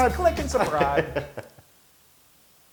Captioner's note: laugh